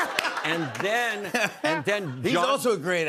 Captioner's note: laughter